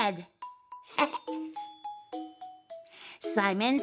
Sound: chuckling

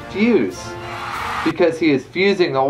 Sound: applause

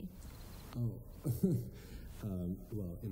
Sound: laughs

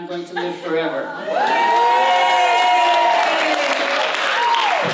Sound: applause

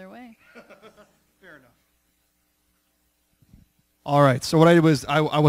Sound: laughs

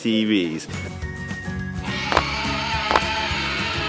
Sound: dinosaur roar

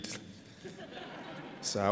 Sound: laughter

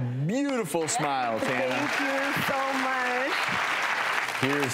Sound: crowd cheers

